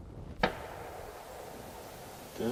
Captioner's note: gunshot